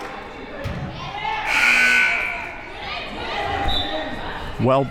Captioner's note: buzzer; whistle